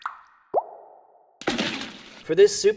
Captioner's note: dripping; splash